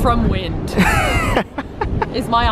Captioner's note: laughs